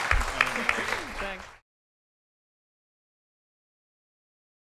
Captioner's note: audience applause